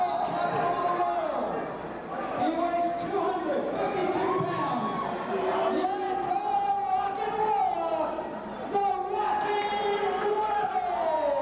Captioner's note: crowd cheering